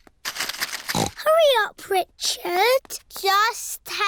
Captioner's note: snorts